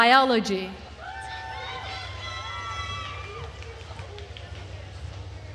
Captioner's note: attendees cheering